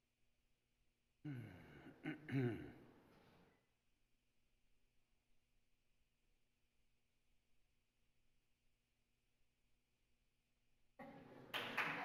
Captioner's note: applause